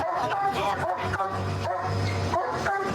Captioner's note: barking